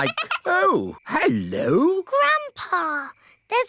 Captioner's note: giggling